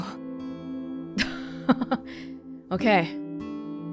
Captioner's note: chuckles